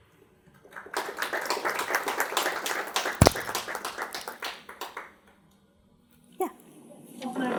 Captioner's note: audience clapping